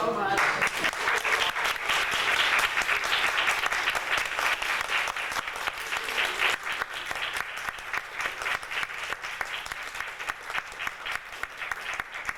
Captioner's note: audience applauding